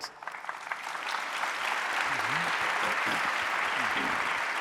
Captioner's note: audience applauding